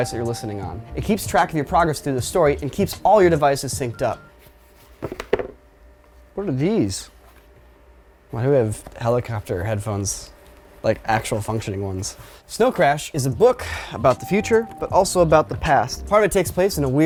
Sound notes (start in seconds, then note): none